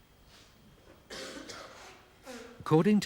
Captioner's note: man coughing